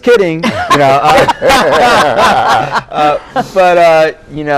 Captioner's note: laughs